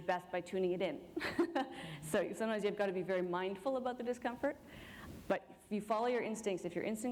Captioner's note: chuckle